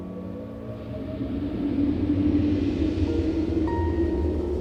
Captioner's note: whooshing